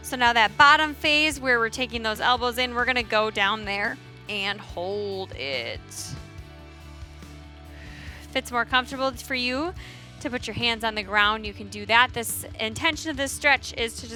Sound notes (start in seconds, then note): 7.7 exhales